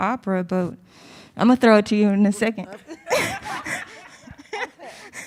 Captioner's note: laughs